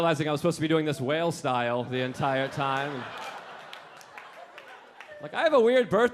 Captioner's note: audience laughing